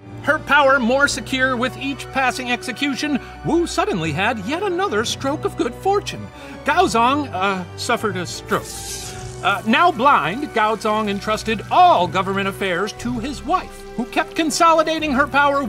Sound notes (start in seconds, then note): 8.5 electricity crackles